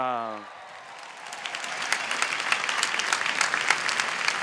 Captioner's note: applause